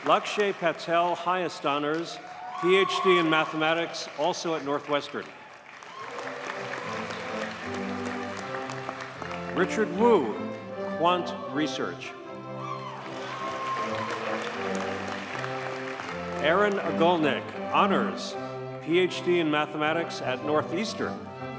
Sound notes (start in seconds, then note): 5.7 audience cheers and applauds; 12.6 audience cheers and applauds